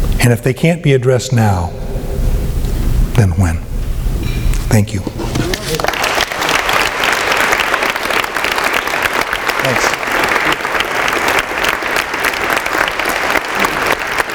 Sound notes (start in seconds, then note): 5.5 applause